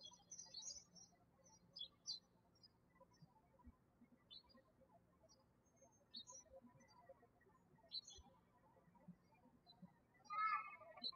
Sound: birds chirping

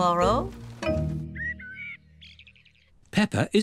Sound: birds chirping

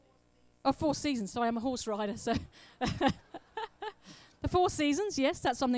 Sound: laughs

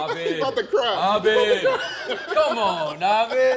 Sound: laughs

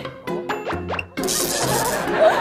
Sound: whispering

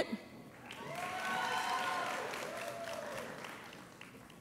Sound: audience applauds

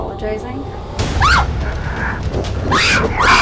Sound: screams; screaming

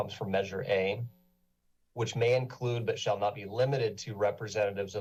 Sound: none

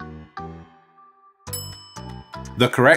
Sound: bell clinking

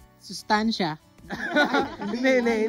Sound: laughs

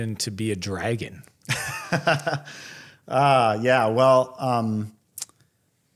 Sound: laugh

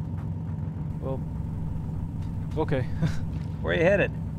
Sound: laughs nervously

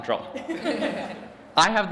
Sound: laughter

